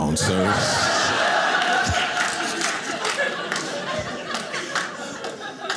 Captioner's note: audience laughing